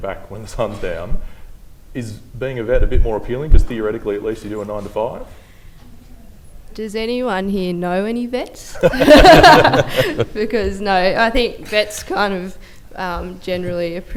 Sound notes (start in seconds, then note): 8.8 laughter